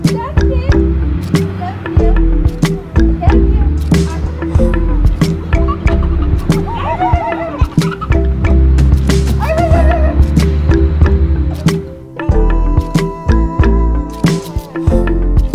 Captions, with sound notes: - Jackson, I love you! (laughing)